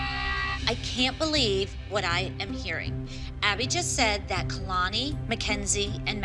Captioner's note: none